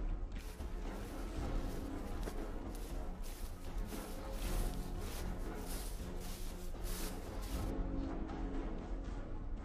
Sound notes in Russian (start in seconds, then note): 0.3 шаги